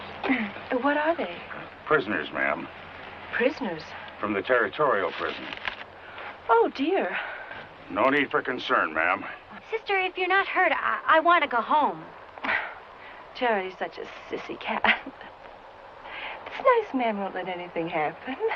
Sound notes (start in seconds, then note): 12.4 sighs